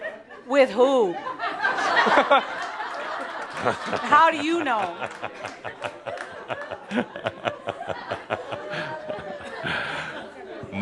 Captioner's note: more laughter, Adamus giggling